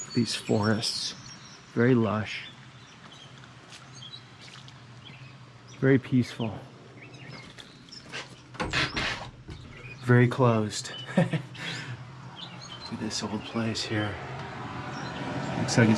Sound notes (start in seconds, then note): 3.3 birds chirping; 10.8 chuckles